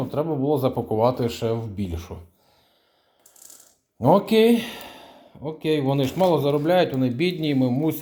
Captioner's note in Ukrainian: сопіння